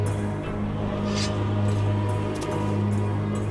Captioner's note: sword unsheathed